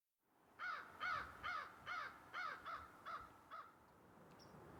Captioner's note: crow cawing